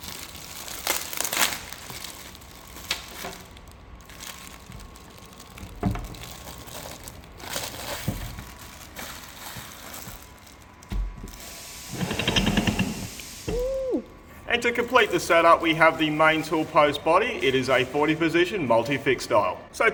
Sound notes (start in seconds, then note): 13.5 ooOOoo